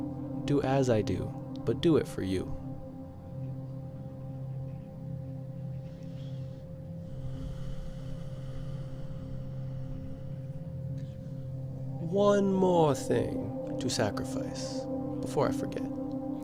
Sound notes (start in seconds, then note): 7.7 contemplative sigh